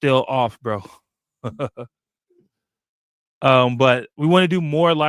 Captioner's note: laughs